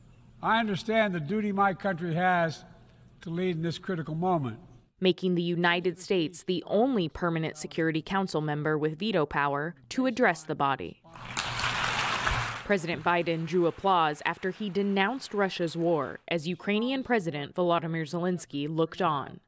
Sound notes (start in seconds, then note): 11.1 applause